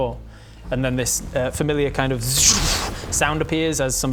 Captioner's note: zrrrphh